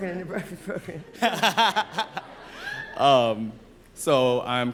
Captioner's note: laughter